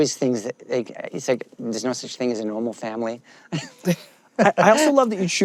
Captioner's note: laughs